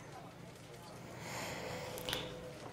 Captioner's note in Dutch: none